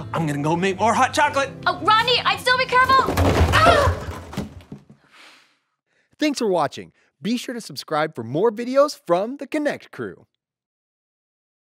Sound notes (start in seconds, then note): 2.9 boxes crashing; 5.1 woman sighing